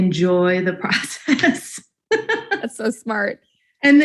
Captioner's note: both laughing